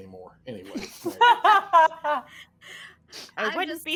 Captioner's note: all laughing